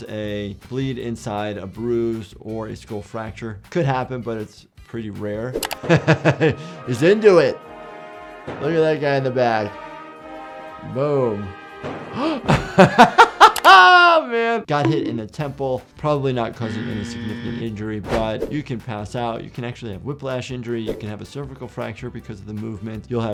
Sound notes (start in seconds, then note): 5.8 laughs; 11.8 drum hits loudly; 12.1 laughs